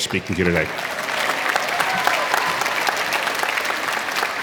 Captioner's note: applause